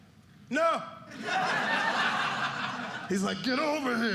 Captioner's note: audience laughing